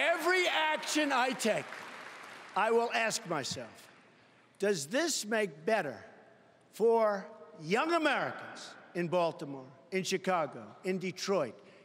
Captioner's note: applause